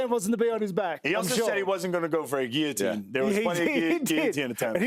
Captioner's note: laughter